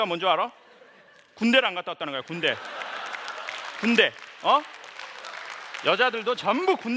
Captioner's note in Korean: 웃음